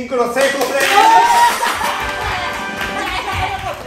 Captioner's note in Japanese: 拍手